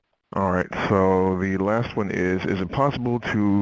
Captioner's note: voiceover